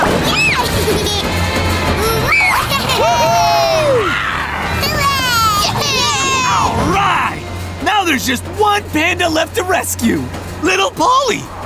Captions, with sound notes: [laughing] [cheering] All right! Now there's just one panda left to rescue. Little Polly.